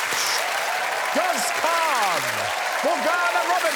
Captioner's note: audience applauding